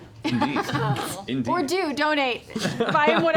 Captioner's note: laughter